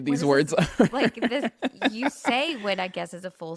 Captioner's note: laughs